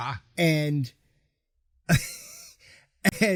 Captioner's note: laughing